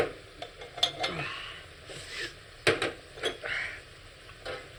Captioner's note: wincing